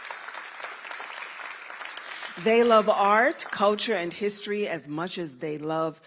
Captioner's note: applause